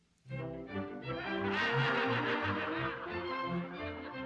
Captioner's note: audience laughs